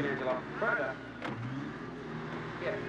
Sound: crane whirring

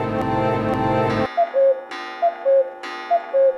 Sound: cuckoo clock calling

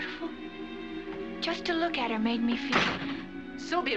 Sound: door Slams

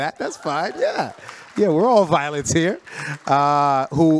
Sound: audience claps

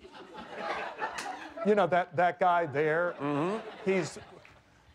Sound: laughter

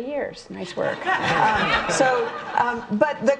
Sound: audience laughing

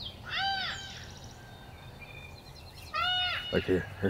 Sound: deer call

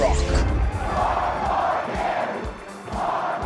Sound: chanting

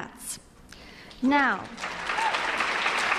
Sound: applause

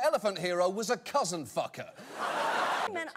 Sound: audience laughter

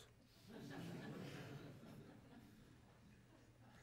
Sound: audience laughs

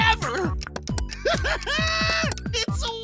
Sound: laughing

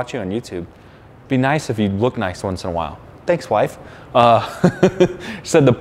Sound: laughing

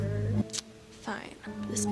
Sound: lip smack

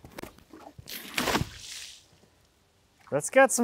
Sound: water splashes

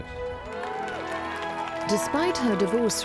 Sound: crowd cheering

